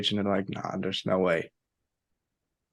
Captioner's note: none